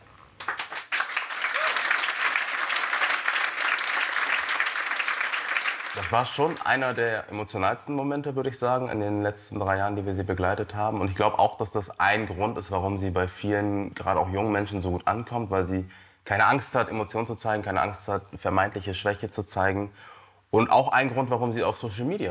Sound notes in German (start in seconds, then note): 0.3 Applaus; 1.1 Jubel